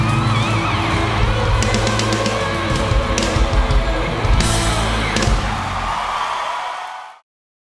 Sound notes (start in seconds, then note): 5.7 audience cheering